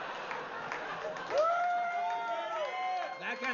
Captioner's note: Risas; vítores y aplausos